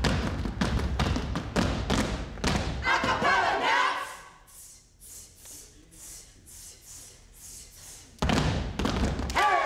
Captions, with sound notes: Acapella next. (group hisses)